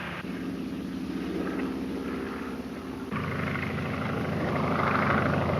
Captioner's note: airplane engine roaring